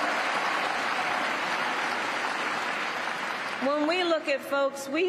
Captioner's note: cheers and applause